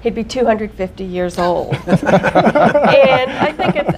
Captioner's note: laughter